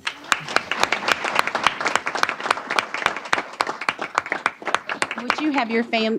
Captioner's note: applause